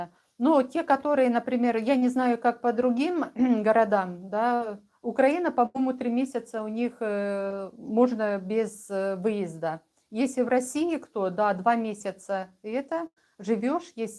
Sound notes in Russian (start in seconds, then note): 4.0 откашливается